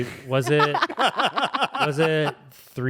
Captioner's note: everyone laughs